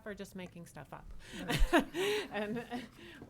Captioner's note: laughs